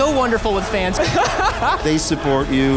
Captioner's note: laughing